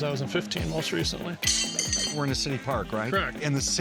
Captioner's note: horseshoe hitting post